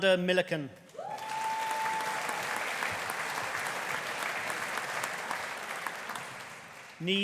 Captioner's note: audience cheering; audience applauding